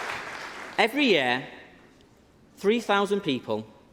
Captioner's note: applause